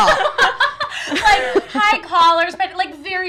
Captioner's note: laughs